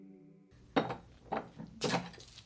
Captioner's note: beer cap popping